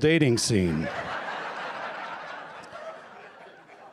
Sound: laughter

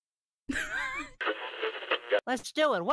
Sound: radio tuning noise

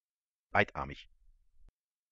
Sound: fast Pronunciation

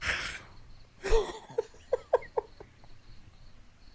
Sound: laughs

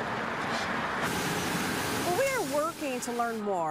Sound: cars drive by, scraping, and trucks

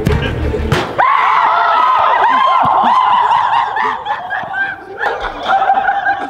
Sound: group cheers

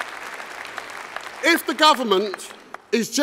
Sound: applause

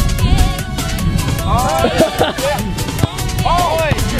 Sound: laughter

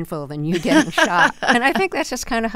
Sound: laughter

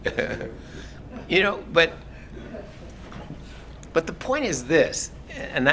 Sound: laugh

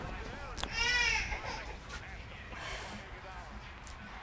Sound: baby crying

